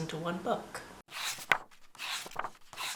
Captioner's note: pages turning